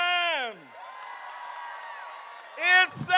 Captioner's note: crowd cheering